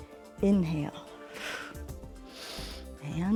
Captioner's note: exhales and inhales